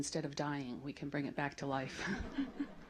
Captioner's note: laughter